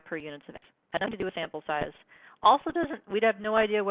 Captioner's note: glitching speaking